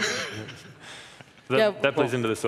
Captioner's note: laughing